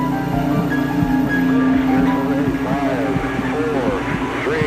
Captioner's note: speaking faintly